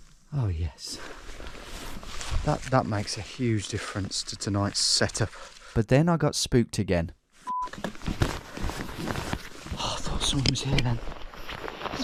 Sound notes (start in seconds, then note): 7.4 beep